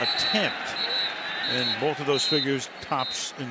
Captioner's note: whistle blows